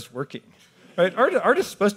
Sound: audience laughs

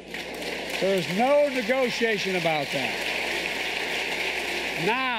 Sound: applause

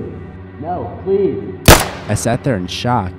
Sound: gunshot

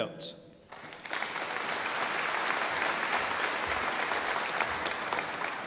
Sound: audience applauding

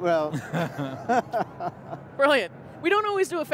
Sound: chuckling

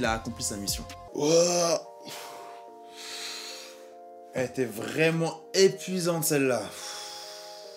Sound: yawns

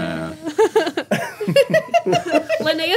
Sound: group giggling

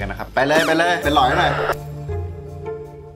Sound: radio; joyful music playing

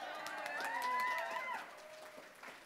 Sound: applause

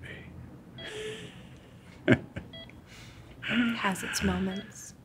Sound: laughing

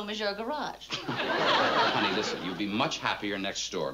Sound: laughs

